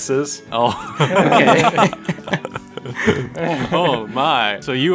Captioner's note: laughter